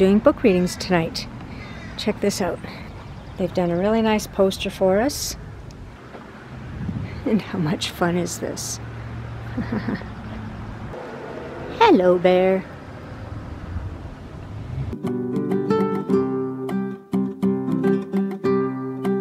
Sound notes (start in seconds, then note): 9.4 laughing